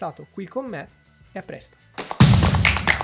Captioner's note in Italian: Applauso